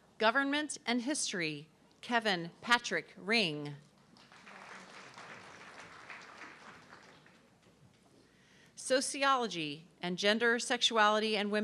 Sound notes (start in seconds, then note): 4.0 audience clapping